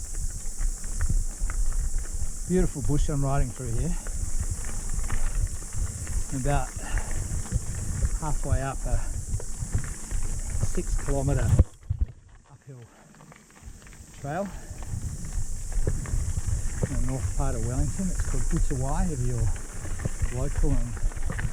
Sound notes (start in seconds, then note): 0.3 insects chirping; 0.3 wheels rustling; 5.3 pedals thumping; 6.7 breathing deeply